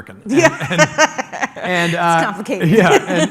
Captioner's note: laughs